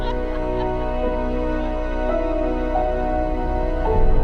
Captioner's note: family laughing